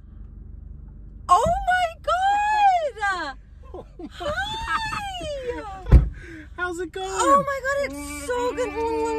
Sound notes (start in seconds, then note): 5.3 laughs